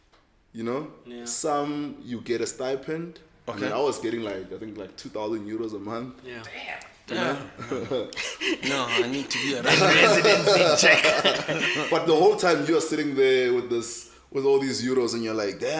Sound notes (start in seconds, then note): 7.1 everybody laughing